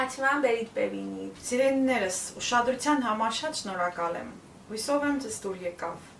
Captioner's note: in Armenian